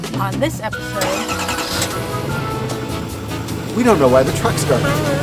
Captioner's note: sound of truck starting